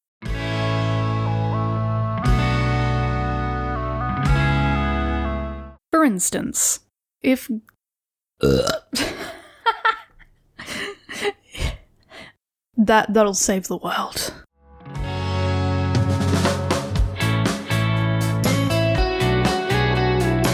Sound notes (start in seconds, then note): 8.4 burp; 10.5 laughter